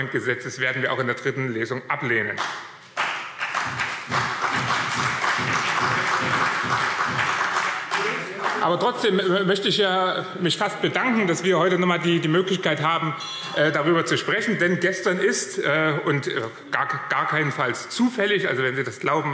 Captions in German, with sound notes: werden wir auch in der dritten Lesung ablehnen. [Beifall BÜNDNIS 90/DIE GRÜNEN und CDU - Zurufe - Glockenzeichen] Trotzdem möchte ich mich fast bedanken, dass wir heute noch einmal die Möglichkeit haben, darüber zu sprechen; denn gestern ist keinesfalls zufällig - wenn Sie das glauben,